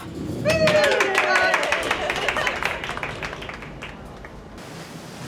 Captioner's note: colleagues cheering